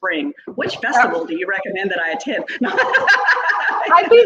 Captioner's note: laughs